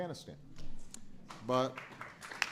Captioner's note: applause